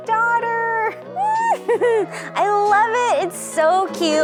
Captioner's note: laughs